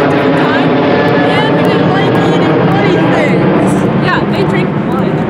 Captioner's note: yelling over noisy plane